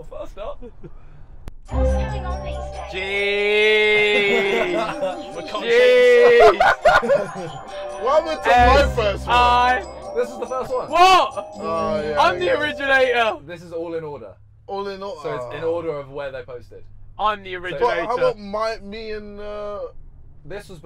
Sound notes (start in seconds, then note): 2.9 exclaims